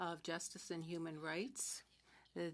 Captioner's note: speaking French